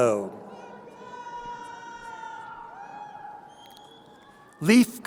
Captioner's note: crowd cheering